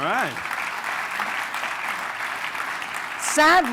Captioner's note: applause